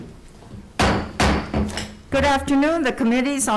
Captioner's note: gavel thumps